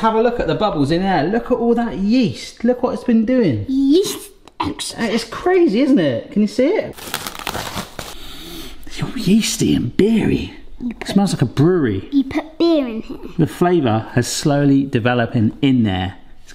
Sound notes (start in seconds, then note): 6.9 wrap crinkling; 8.1 sniffs